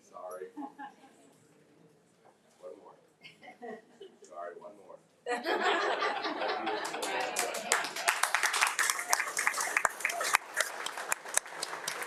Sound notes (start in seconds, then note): 5.4 all laugh; 6.5 audience applauding